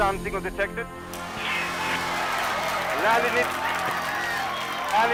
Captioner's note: raucous cheering